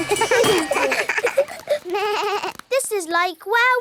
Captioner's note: all laugh